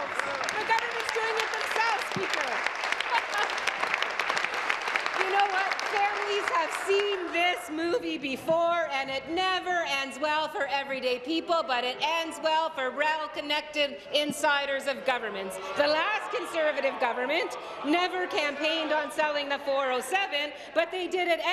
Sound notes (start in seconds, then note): 4.7 applause